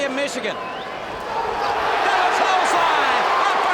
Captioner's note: audience cheers